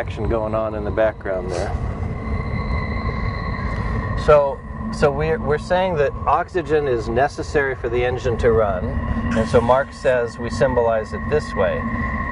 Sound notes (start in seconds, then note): 2.1 squeaking